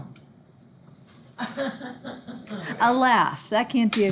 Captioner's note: student laughs